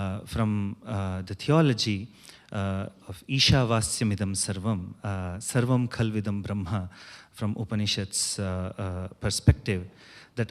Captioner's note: non-english